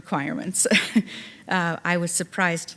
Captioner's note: chuckling